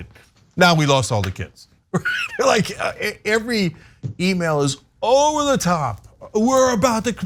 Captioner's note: laugh